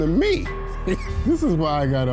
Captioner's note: laughing